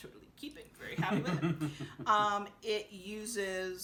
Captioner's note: laughing